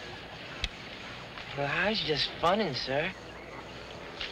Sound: none

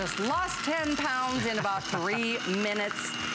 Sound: laughter

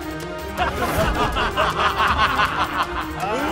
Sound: laughs

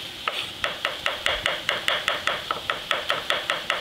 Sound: knife taps

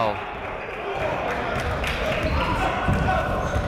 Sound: shouting

